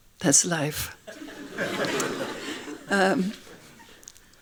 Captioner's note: laughing